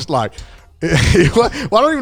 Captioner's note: laughing